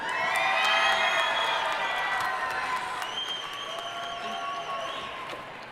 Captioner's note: audience cheering and applauding